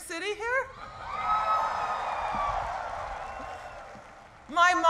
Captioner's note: cheering